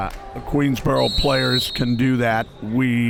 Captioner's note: whistle blows